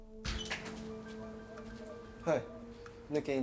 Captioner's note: door opens